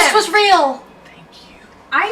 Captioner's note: whispering